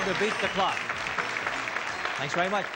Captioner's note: audience cheers